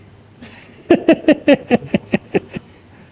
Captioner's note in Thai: เสียงหัวเราะ